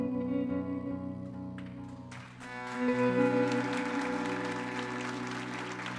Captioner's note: audience applauding